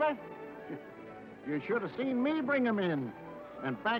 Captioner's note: scoffs